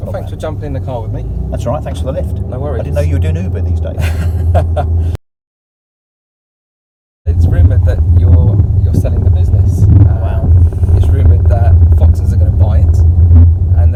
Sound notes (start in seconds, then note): 4.0 laughs